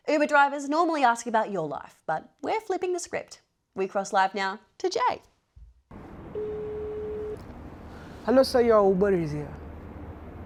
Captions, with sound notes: Uber drivers normally ask you about your life, but we're flipping the script. We cross live now to Jai. (Phone dialling tone) Hello sir, your Uber is here.